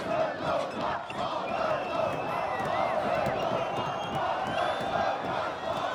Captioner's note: fists bang